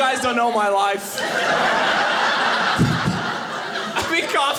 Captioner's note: audience laughing